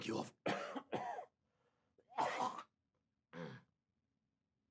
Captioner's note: coughs